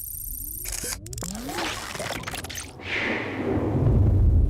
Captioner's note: robotic whirring